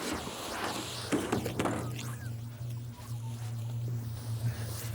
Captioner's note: body thumping